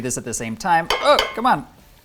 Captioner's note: bowl clanking